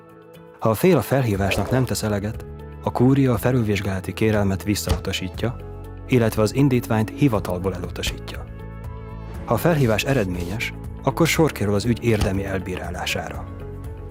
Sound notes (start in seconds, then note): 4.8 sound of stamping; 10.4 whispering papers; 12.1 sound of stamping